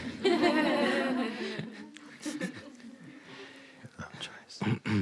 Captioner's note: laughter